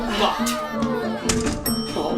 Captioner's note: elevator ding